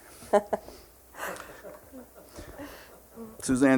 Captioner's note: laughing